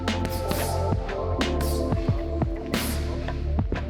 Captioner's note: sharp breathing